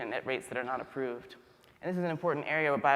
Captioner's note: none